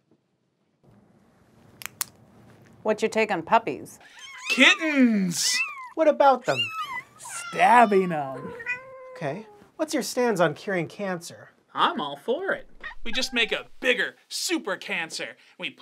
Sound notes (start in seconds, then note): 1.9 pen clicks; 8.6 kitten meowing